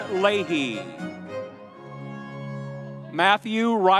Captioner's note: audience cheering